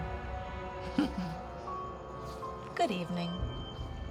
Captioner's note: laughs